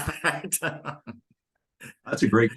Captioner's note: laughing